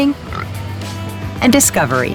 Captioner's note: snorts